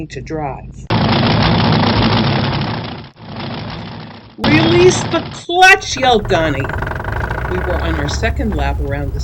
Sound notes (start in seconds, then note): 0.9 sound: end engine idle; 1.5 sound: damaged car engine